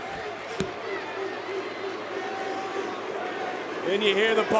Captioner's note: crowd barking